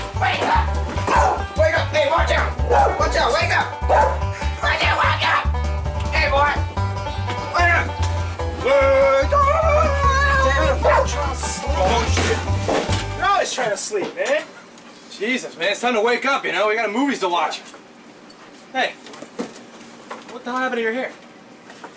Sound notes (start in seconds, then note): 2.6 Cueball barking; 6.8 country music